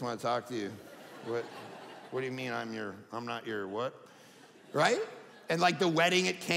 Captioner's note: audience laughing